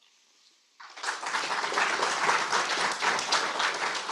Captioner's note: applause